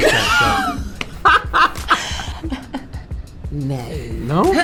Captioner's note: all chuckle